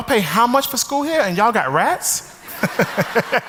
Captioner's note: audience laughs; laughs